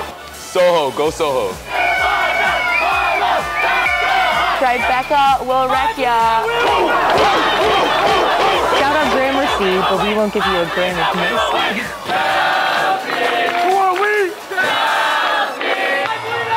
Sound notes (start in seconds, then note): 2.0 FiDi cohort chanting; 6.6 students chanting; 12.1 Chelsea cohort chanting